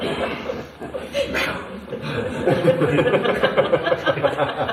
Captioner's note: laughs; laughter